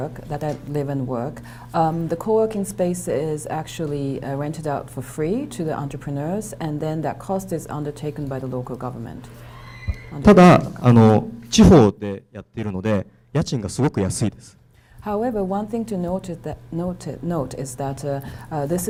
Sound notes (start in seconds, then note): 10.5 speaking foreign language